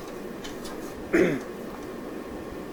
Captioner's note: Brando Clears Throat